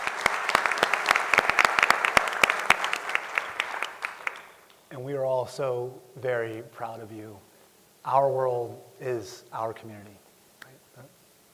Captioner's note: applause